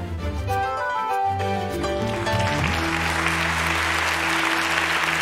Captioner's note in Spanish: Aplausos